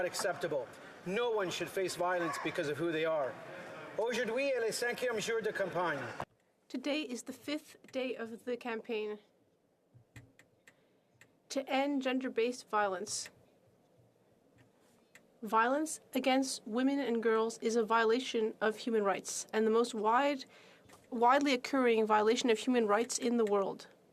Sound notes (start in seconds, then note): 8.6 speaking French